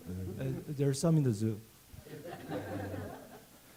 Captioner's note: speaking Korean; laughter